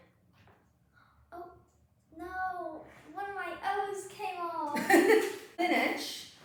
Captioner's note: laughs